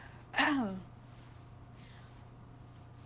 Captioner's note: Esther clears her throat